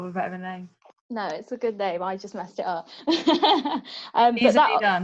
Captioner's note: laughs